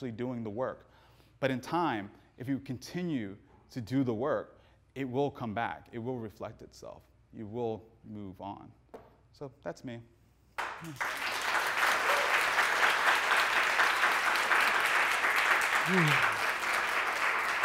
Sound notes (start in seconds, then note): 10.6 audience applauding